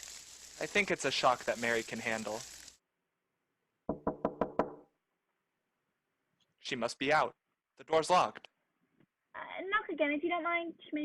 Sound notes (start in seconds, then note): 3.9 knocking at door